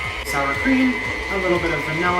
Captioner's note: mixer whirring